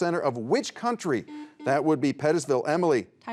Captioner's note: buzzer beeps